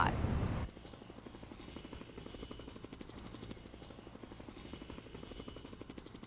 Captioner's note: helicopter whirring continues